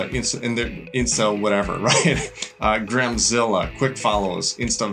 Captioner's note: laughs